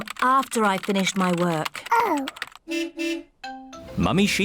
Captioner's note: car horn beeps